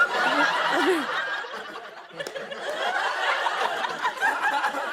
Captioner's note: laughter